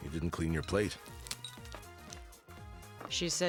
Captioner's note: clinking